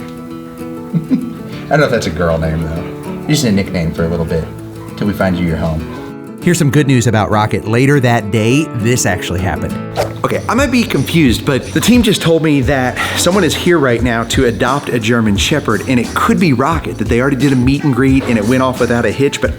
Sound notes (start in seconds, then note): 0.8 laughs